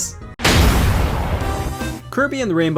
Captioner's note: object smashes; upbeat music